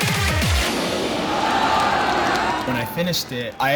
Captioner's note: crowd cheers